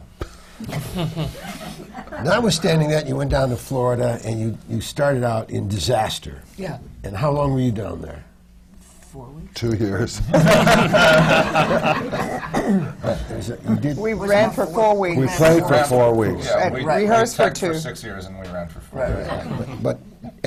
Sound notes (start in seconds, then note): 0.6 laughter; 10.2 laughter